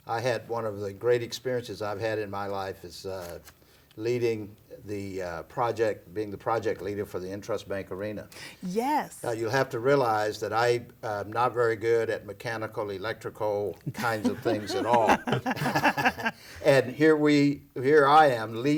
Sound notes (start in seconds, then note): 13.9 all laugh